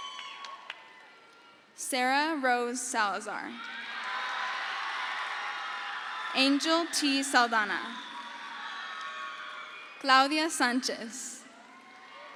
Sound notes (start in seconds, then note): 0.0 crowd cheers; 4.5 crowd cheers